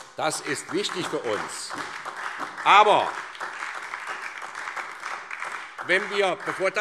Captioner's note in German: Beifall SPD